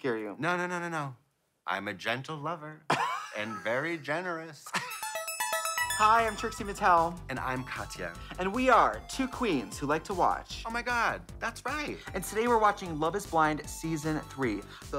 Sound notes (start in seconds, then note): 4.7 blonde women tee-hee; 5.1 fun upbeat music